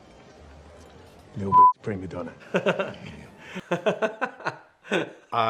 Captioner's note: beep; chuckles; laughing